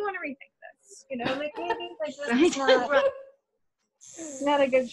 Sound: laughter

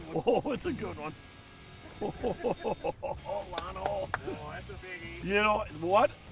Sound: laughing

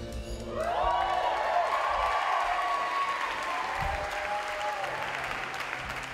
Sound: crowd cheers

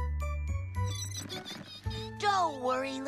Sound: mice Squeak

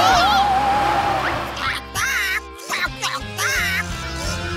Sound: squawking

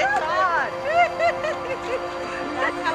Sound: giggling

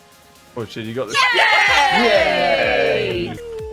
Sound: cheering

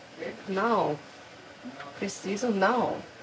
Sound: speaking in foreign language; speaking in a foreign language

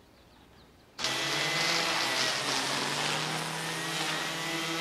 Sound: strimmers whirring

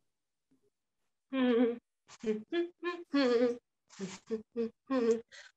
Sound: custodian humming

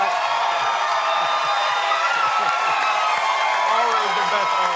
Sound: applause

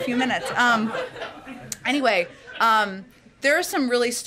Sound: laughter

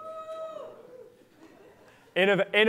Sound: laughter

